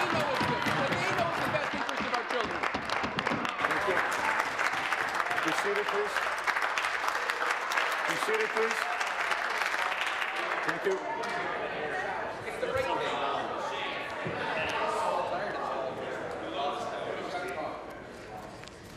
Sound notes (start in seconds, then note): 5.0 applause